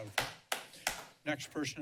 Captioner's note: clapping